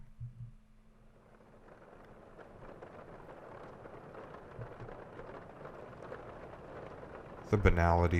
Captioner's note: sound of rain tapping on a window